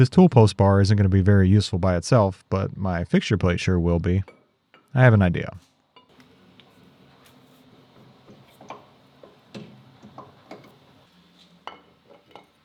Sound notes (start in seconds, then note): 8.9 metal clanking